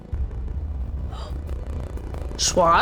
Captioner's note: gasping